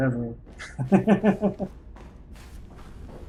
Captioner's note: chuckles